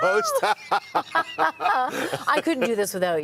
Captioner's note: hosts laughing